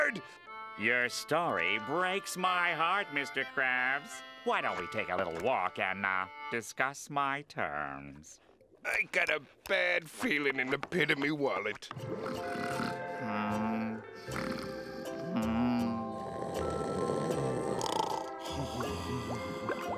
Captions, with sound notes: Your story breaks my heart, Mr. Krabs. Why don't we take a little walk and, uh, discuss my terms? I got a bad feeling in the pit of me wallet. [snoring] [snoring]